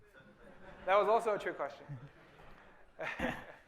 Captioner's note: laughter